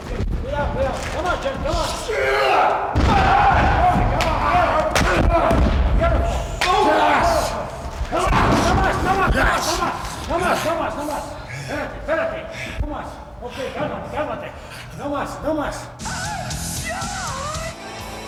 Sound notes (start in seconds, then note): 2.5 body thuds; 2.5 both grunting; 4.9 body thuds; 4.9 kick thuds; 9.0 trainer speaking in foreign language; 13.1 Shawn panting; 18.1 upbeat music